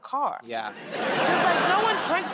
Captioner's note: laughter